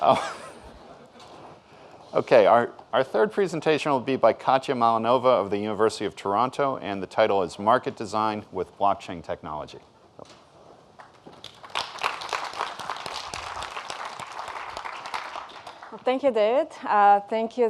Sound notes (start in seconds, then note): 11.0 audience applauding